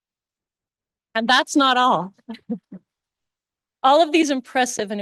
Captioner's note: chuckles